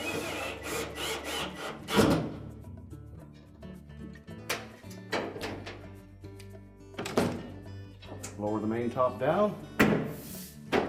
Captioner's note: drilling noise